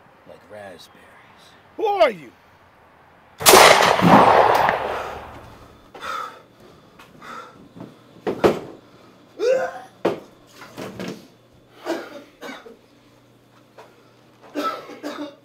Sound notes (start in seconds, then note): 3.4 gunshot; 5.5 hard breathing; 9.4 vomiting; 11.7 coughing